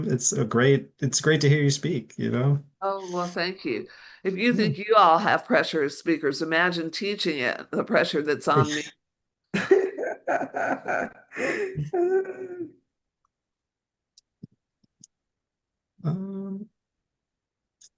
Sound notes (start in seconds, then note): 9.5 laughter